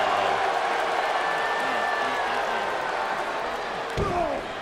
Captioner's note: crowd cheers and boos